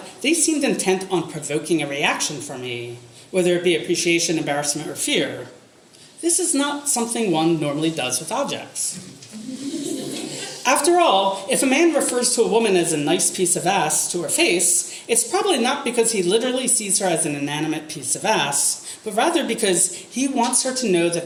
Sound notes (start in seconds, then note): 9.3 audience laughter